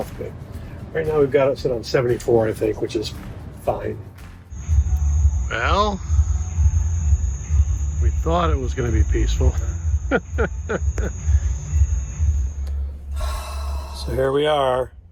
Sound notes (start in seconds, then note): 4.0 bass bumping; 4.0 bouncy music; 10.0 laughing; 13.1 sighing